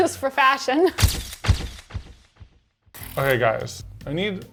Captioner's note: camera clicking